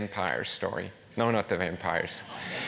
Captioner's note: laugh